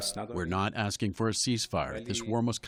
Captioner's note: through translator